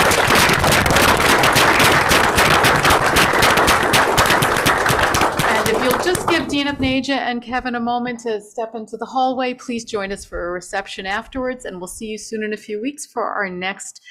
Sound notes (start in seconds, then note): 4.4 applause